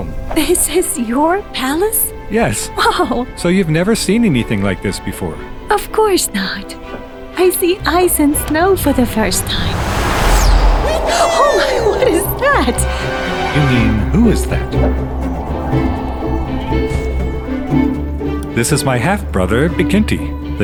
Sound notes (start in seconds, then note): 9.8 whooshing; 17.1 distant thump